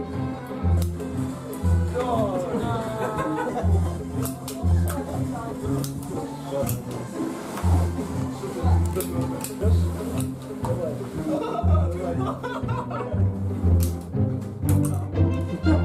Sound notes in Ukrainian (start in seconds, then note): 2.0 звуки розчарування; 11.2 сміх